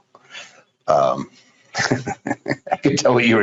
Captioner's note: chuckles